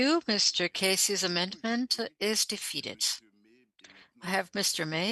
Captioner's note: speaking French